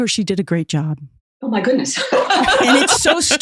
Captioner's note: laughs